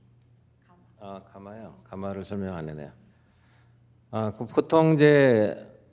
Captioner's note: speaking in Korean